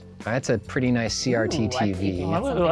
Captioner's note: pat